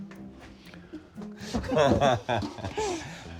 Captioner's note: laughs